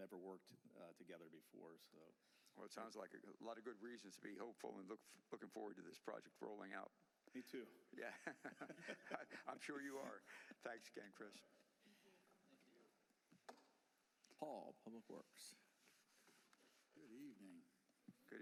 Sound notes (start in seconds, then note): 9.6 laughter